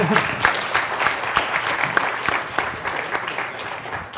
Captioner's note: applause